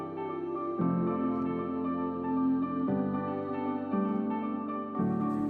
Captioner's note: none